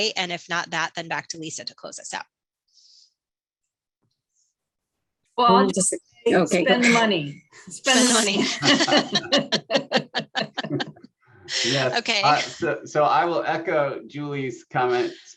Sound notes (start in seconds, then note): 10.2 laughter